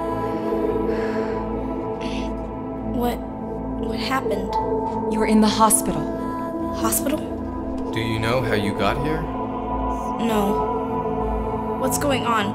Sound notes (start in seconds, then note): none